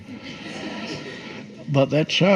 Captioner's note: audience laughs